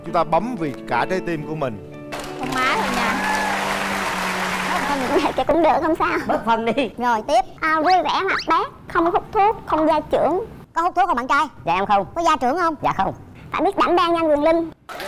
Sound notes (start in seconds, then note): 2.1 applause